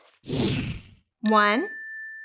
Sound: whooshing

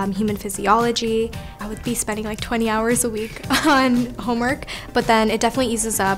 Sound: laugh

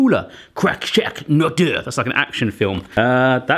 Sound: speaking foreign language

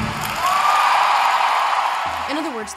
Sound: thundering applause and cheers

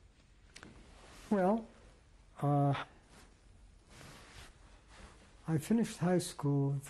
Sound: pauses for 3 seconds

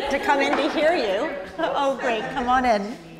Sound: group laughs

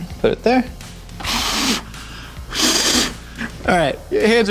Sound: blowing

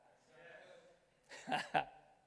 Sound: crowd

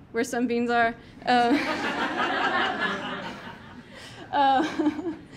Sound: audience laughing

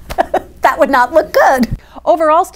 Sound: laughs

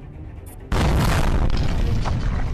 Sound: boom!!!

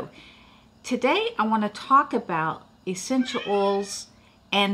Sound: cat meows

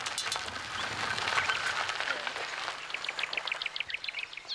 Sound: birds chirping

